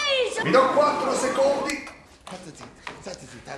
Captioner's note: TV shuts down